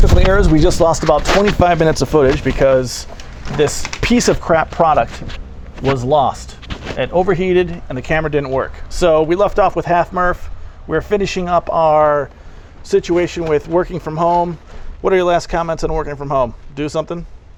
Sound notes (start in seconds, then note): none